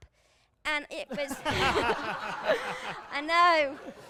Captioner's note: laughter